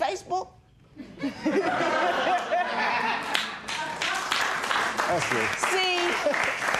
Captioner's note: laughter